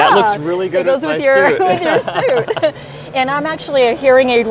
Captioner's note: both laughing